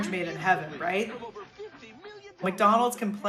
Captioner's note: soundbite of archived recording